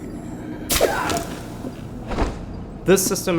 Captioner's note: enemy yells